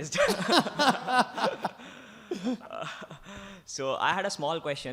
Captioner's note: both laughs